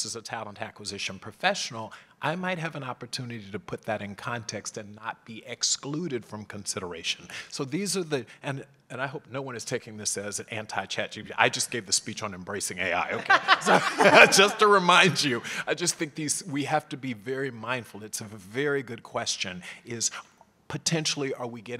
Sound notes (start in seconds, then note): 12.9 laugh